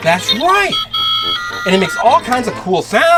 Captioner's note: beeping